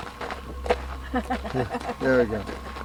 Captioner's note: both laughing